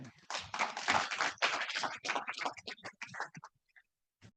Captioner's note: audience applauding